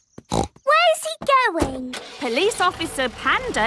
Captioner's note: snorts